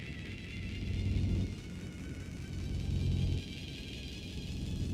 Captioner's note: whine rapidly increasing in speed and pitch